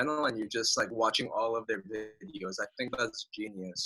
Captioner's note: murmurs